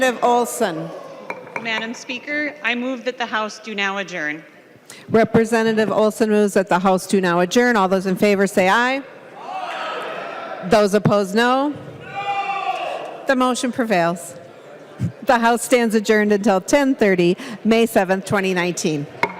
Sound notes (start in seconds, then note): 12.0 chorus of ayes